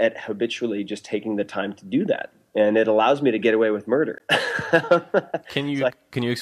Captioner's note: laughs